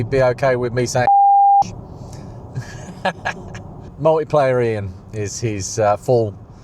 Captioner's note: beep; laughs